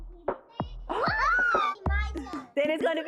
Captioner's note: children cheer